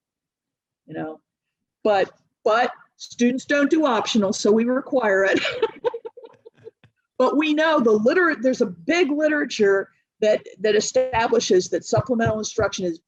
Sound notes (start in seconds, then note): 5.4 laughs